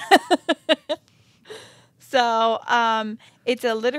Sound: chuckling

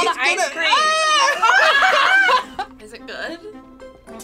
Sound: screaming; laughing

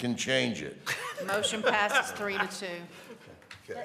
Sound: laughter

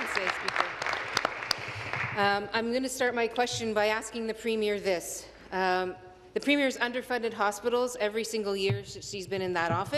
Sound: applause

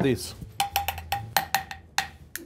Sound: spoon tapping objects rhythmically; spoon tapping bowl

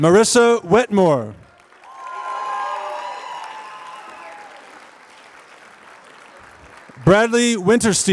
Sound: applause

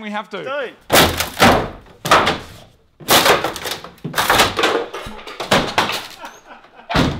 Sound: banging; laughs; door closes

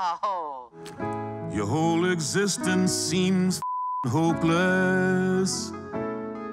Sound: beep

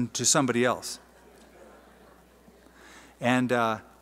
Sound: laughter

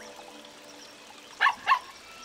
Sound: barking

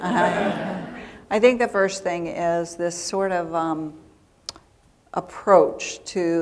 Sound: laughter

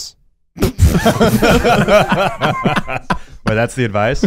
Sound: laughing

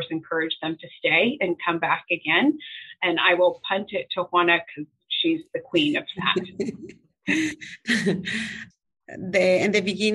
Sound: laughter

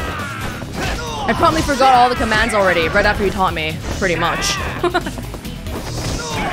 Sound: laughs

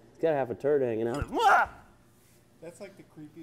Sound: screams

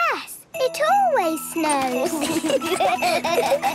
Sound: laughter

